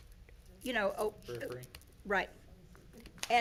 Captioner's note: speaking faintly